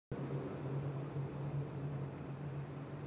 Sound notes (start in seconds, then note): 0.1 SFX: crickets